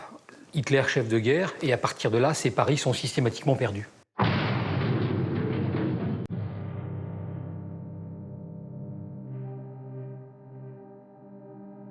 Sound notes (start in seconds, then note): 4.1 explosion booms; 6.3 somber music